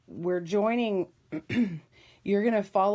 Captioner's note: clears throat